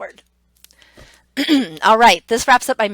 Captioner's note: clears throat